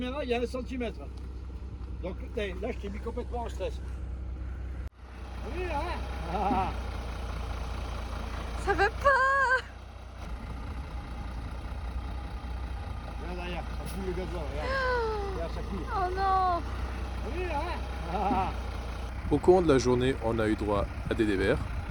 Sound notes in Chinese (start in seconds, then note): 18.1 非常欠打的得意笑